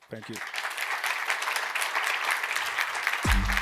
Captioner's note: applause